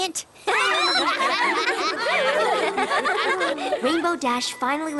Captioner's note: laughter